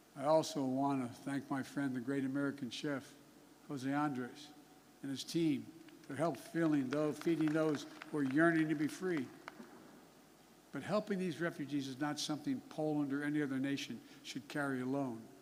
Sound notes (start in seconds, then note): 5.9 applause